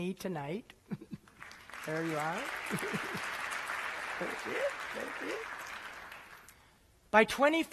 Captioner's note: applause